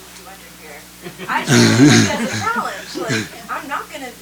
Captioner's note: laughter